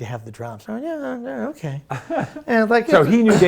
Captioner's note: laughing